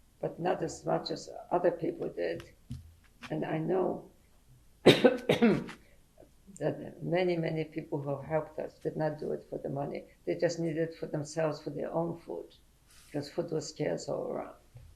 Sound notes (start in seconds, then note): 4.4 pauses for 3 seconds